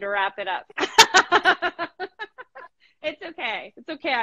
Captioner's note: both laughing